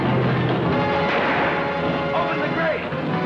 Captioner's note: gunshot